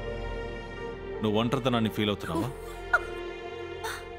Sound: giggling

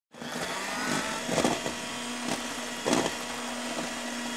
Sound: whirring

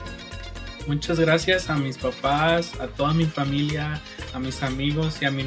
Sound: speaks in foreign language

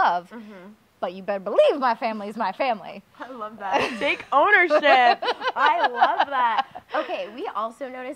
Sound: laugh

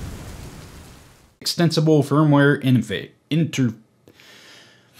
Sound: sigh

